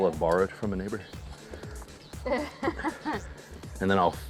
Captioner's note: laughs